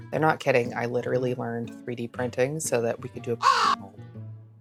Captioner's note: caw